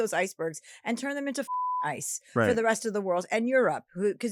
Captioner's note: beep